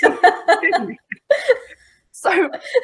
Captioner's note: laughing